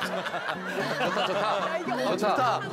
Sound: giggling

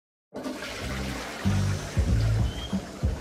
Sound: sound of toilet flush then background bass rhythm

